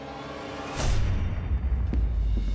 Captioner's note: bang; running steps